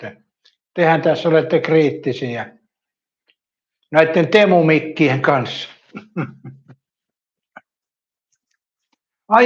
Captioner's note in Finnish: naurua